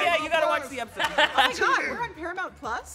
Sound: laughing

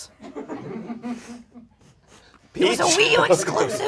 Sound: audience laughs

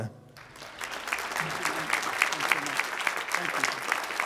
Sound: applause

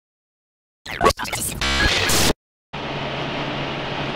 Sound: radio tuning

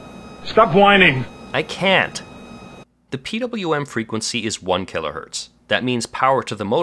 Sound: motor is making a whining noise

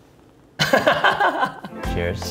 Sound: laughing

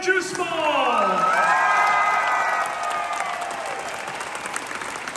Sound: crowd cheers

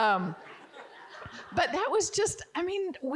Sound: audience giggling

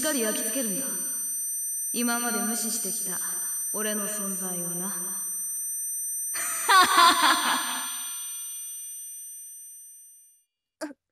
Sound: laughs

